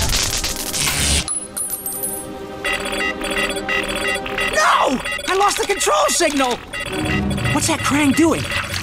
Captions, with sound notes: [clanking] [beeping] No! I lost the control signal! What's that Kraang doing?